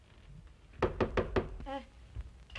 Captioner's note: door knocks